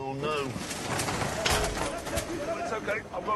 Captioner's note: angry shouting